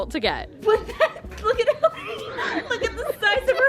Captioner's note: laughing